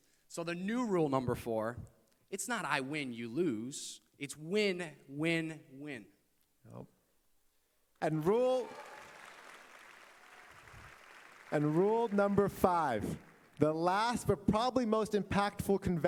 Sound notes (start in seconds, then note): 8.0 applause